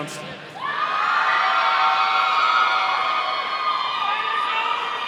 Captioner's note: audience cheering